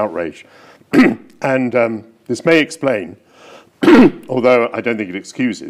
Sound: clears throat; clears throat

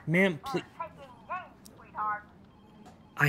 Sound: woman on phone

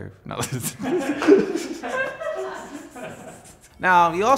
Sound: laughs

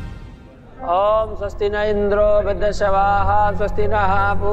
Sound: chanting

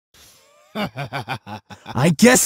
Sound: Tabi's Evil Laugh

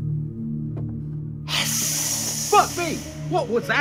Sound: hissing

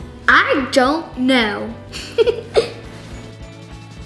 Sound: laughs; upbeat music

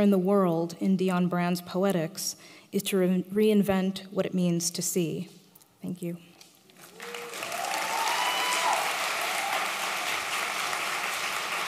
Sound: applause

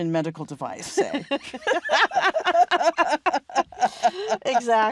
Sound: both laughing

